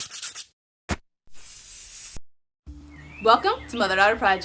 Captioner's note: logo scratching